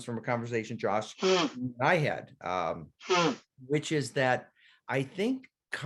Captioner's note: blowing nose